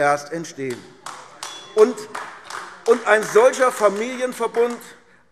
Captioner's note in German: Beifall AfD